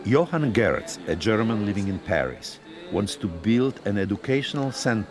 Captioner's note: voice-over